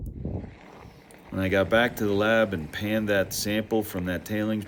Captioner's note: bike whirring